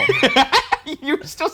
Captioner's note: laughs